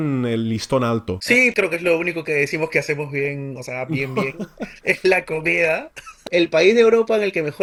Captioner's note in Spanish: risas